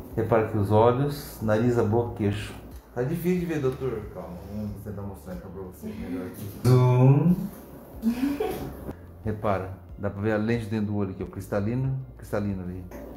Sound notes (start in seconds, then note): 8.0 laughs